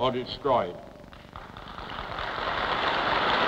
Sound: applause

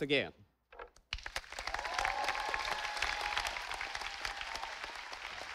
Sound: audience applauding

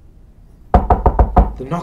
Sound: knocking on door continues

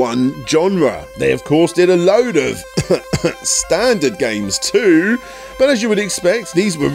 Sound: cough cough

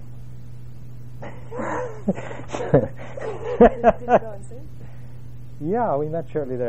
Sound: laugh

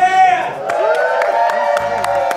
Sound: cheers

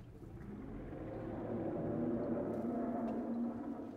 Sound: dinosaur growls

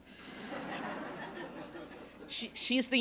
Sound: laughter

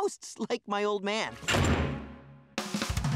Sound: thudding

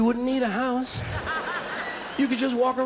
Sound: audience laughing

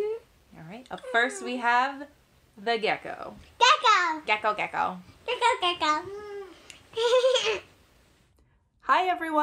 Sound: laugh

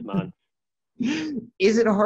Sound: laughs

